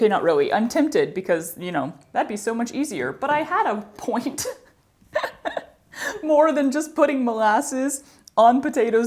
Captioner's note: laughter